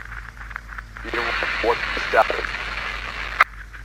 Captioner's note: interference